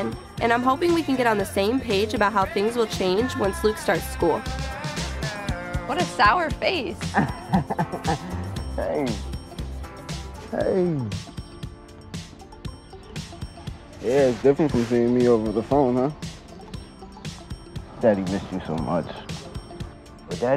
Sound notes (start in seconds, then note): 5.0 upbeat music; 7.0 laughs; 11.4 upbeat music